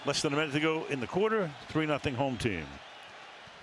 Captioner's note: cheering